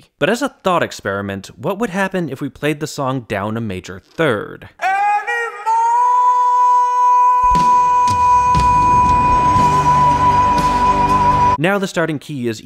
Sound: bang

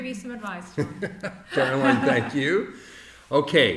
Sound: laughing

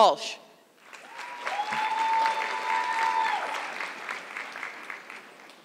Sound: audience clapping

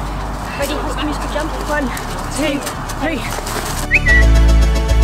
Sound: whistle; music: upbeat instrumental

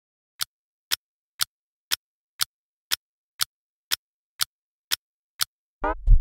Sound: Clock ticking sounds coming from Zucchini's chest

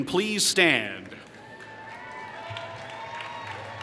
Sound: applause

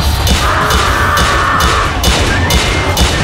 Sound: screams from Xiahou Yuan's Musou

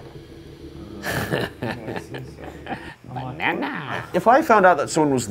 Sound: laughs

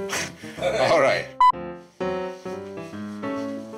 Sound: beep

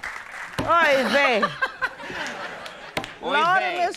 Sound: laughs

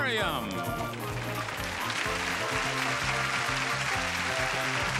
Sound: audience applauding

